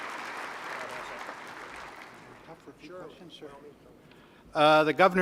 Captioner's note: applause